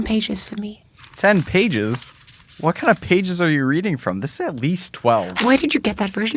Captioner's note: flips through pages